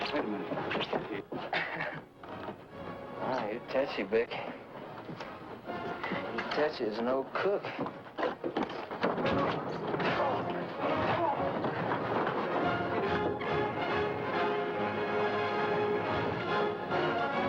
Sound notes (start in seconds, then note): 1.4 chuckles; 9.3 Bick grunting; 9.3 punches thudding; 13.8 upbeat orchestral music